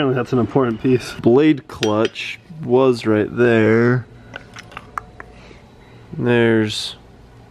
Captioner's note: clicks tongue